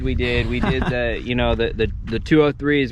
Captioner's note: laughs